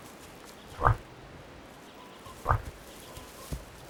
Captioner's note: moose grunts